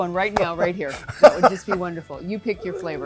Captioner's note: laughs